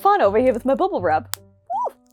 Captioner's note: pop